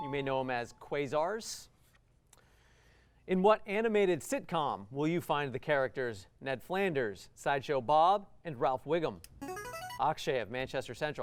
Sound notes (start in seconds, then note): 9.4 buzzer